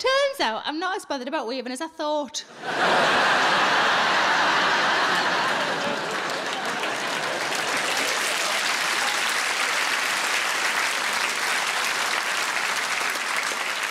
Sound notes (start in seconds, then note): 2.9 audience laughing and applauding